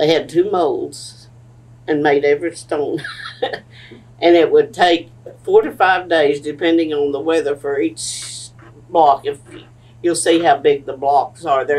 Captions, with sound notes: They had two molds and made every stone. (Laughs) It would take four to five days, depending on the weather, for each block. You’ll see how big the blocks are.